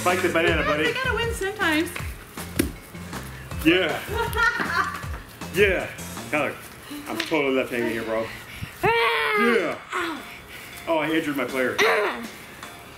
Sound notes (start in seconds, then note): 8.8 grunting